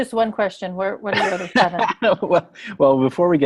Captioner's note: laughing